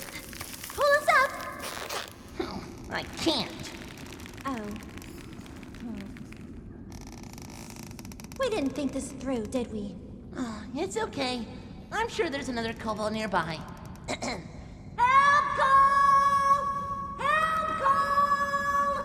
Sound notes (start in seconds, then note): 2.2 frustrated; 10.2 sigh; 13.6 clears throat